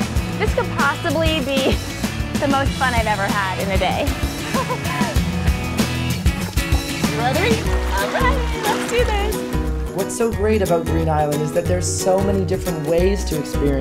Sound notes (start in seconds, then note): 4.3 laughs